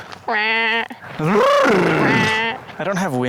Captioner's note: makes lip trilling noise; makes lip trilling noise again